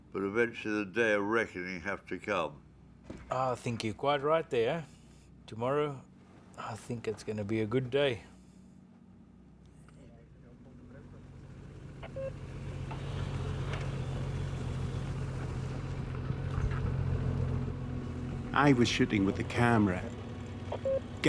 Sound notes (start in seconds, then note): 10.8 jeep humming; 11.1 radio beeping